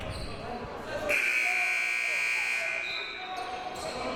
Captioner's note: buzzer